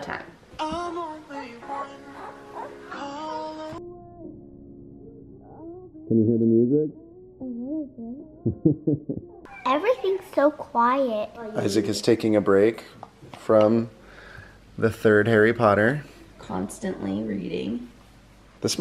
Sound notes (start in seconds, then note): 8.4 laughs